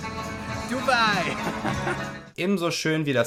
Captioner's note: laughing